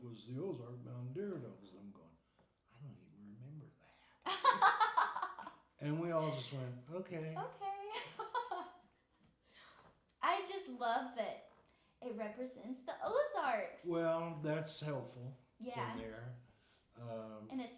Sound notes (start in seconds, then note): 5.8 laughing; 7.8 laughing